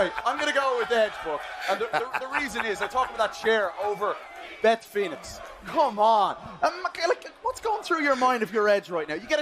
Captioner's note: laughter